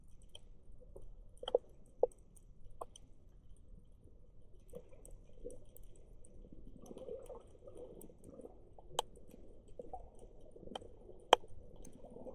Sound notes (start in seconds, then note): 5.8 water sounds